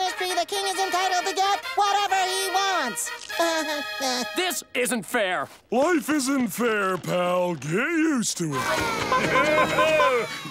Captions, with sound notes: By proclamation of the royal ministry, the King is entitled to get whatever he wants. [chuckling] This isn't fair. Life isn't fair, pal. Get used to it.